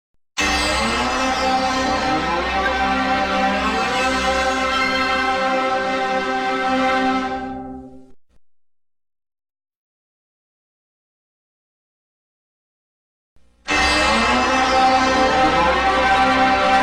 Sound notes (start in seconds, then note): 0.4 startup music playing; 8.7 silence; 13.7 console startup music plays